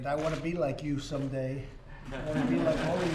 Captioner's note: laughter